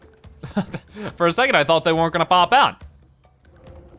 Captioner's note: chuckling